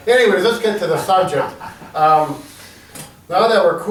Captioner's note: laughs